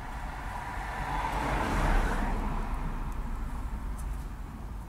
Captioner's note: car engine whirring